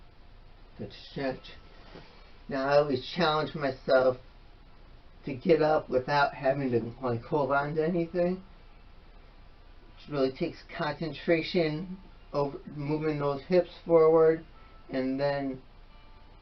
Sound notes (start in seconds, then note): none